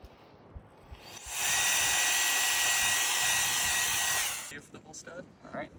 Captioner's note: drill whirring